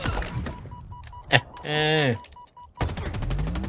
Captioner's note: chuckles